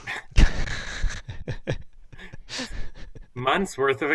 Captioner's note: laughter